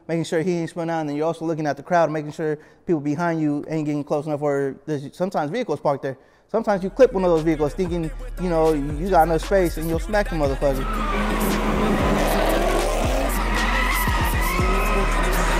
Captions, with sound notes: Making sure he ain't spin out, and then you're also looking at the crowd and making sure people behind you ain't getting close enough where, sometimes vehicles park there. Sometimes you clip one of those vehicles thinking you got enough space then you'll smack the motherfucker. (tires squealing) (engine roaring)